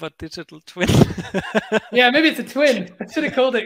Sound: laughing

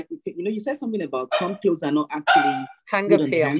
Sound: speaking faintly

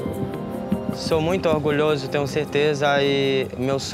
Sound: Brazilian spoken audio

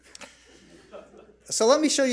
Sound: audience laughs

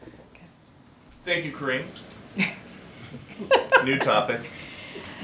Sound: laughter

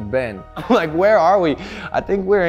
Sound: chuckles

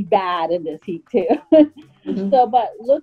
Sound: chuckles

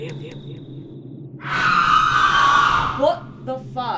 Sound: chants in babylonian; banshee scream

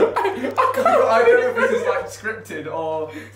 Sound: laughing

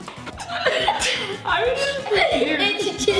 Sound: laughs

